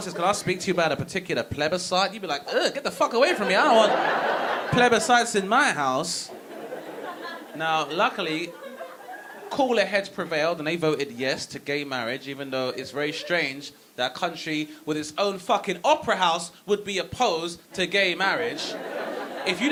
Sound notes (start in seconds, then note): 3.1 audience laughing